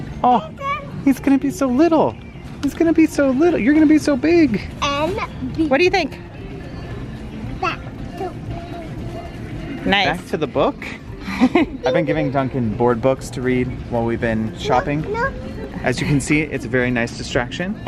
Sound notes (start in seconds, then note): 11.2 laughs